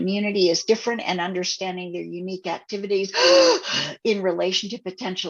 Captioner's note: gasp